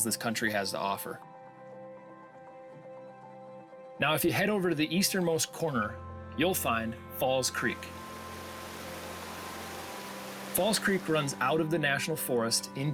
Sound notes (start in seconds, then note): 7.4 water rushing